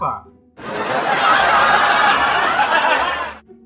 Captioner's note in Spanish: Risas